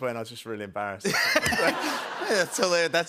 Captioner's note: laughter